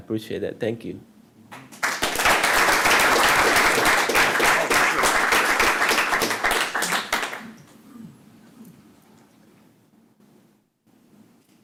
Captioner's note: applause